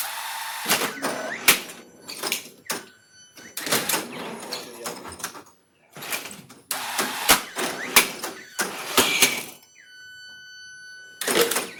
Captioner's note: robot sounds